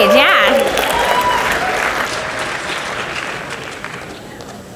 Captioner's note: audience cheers and applauds